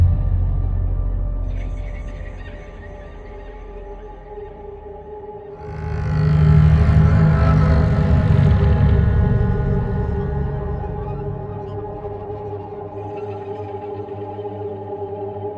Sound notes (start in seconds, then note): 1.5 bats caw distantly; 6.1 deep tense music; 12.3 deep eerie music